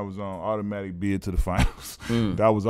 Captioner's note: laughs